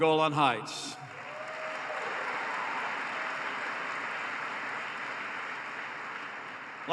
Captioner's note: applause